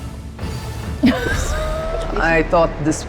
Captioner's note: laughs